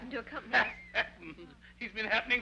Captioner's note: Joseph laughs